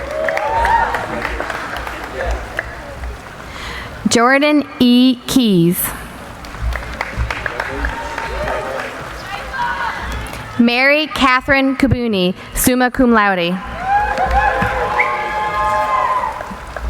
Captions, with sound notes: (applauding) Jordan E. Keys. (applauding) Mary Katherine Kabuni, summa cum laude.